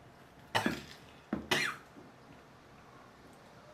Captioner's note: sudden cough